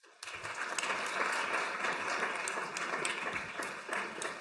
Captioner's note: audience applauding